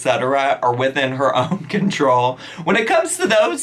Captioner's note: chuckles